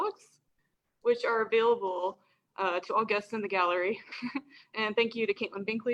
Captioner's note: laughs